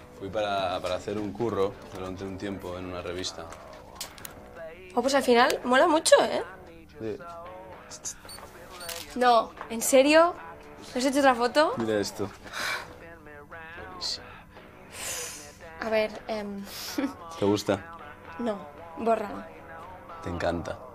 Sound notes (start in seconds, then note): 8.8 camera shutter; 12.5 sighs; 16.7 laughs